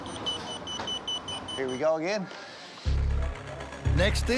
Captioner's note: beeping; beeping stops